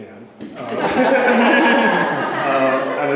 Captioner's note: laughter